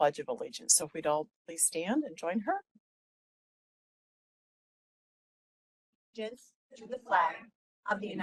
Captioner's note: group speaking together